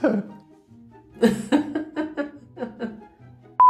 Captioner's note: laughing